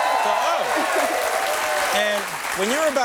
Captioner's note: cheers and applause